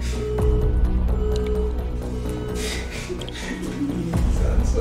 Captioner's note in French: l'appel se déconnecte